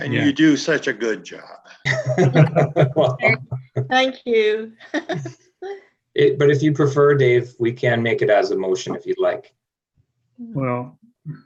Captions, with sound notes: - And you do such a good job. (attendees laughing) - Thank you. - But if you prefer Dave, we can make it as a motion if you'd like. - Well,